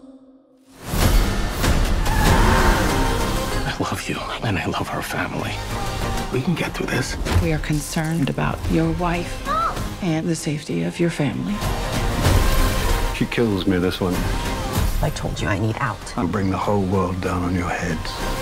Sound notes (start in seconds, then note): 1.6 tyres squeal